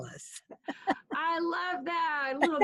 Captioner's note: soft laugh